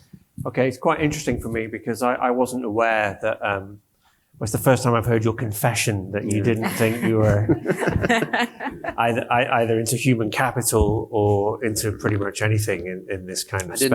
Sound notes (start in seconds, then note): 6.4 panelist laughs